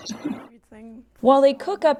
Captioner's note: laughter